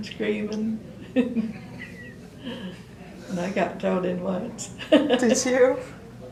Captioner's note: laughter